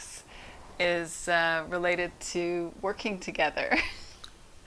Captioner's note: laughs